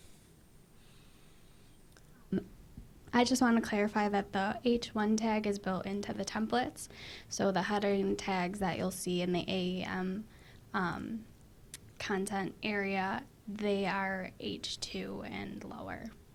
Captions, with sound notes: - [Voiceover] I just wanna clarify that the h1 tag is built in to the templates so the header and tags that you'll see in the A content area, they are h2 and lower.